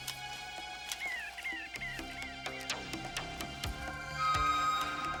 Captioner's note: birds chirping